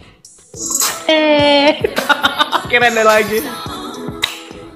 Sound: laugh

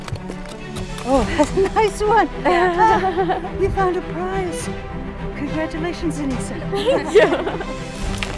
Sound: laughs

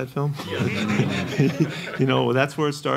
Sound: laughing

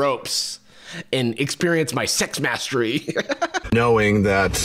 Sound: laughs

